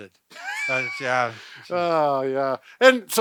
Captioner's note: laughing